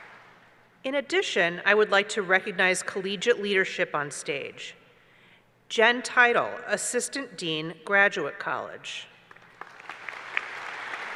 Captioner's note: applause